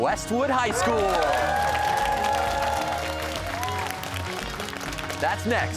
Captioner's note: cheers and applause